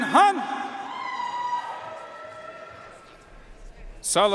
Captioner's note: audience cheering and applauding